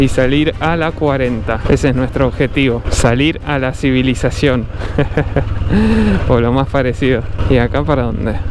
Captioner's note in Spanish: risas